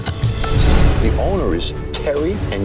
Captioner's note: logo whooshes